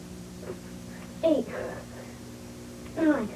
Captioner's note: panting